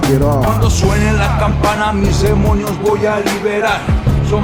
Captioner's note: non-english speech